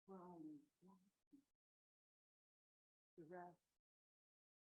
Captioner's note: audio fades out